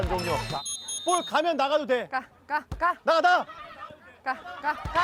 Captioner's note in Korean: 호루라기 소리